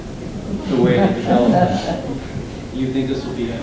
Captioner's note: speaker drowned out by laughter